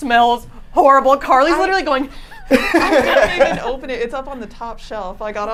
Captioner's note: laughs